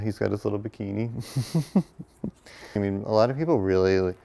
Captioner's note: laughs